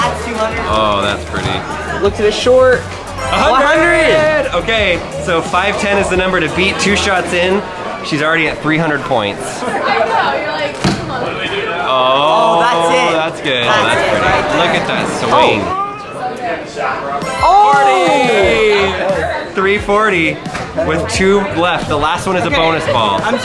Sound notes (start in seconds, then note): 9.5 crowd chattering